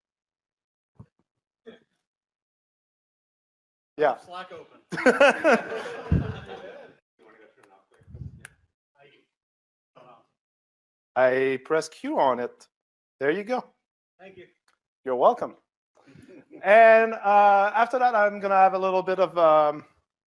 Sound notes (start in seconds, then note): 4.9 laughter